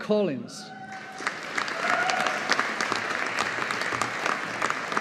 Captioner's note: audience applauding